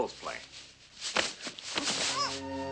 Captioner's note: fight noises, rustling